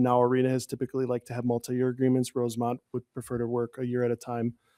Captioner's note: none